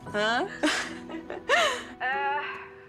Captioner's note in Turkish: Gülüyor